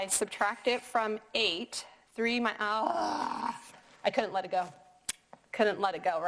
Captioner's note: curses